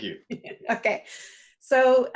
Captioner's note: laughs